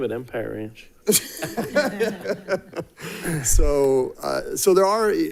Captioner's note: people laughing